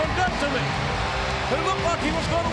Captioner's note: audience cheering